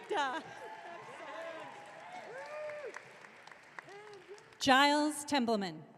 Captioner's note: audience cheering